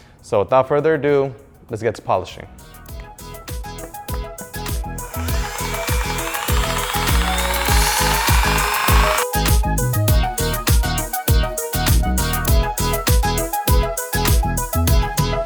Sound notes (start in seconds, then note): 2.9 upbeat music; 5.0 motor humming